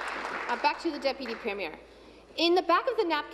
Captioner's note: applause